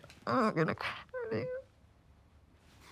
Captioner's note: sobs